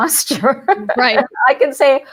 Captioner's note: laughs